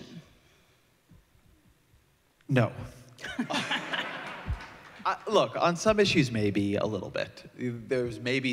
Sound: laughter

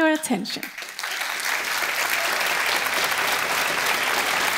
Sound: audience clapping

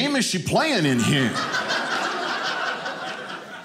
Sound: audience laughing

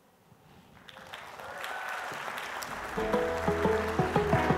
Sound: audience applauds; upbeat music

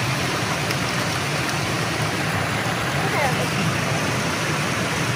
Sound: water thrashing

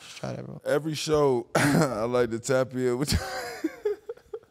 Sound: laughing

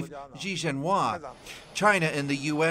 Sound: speaking alternate language

